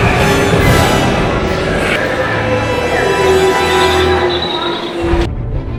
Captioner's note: werewolf howling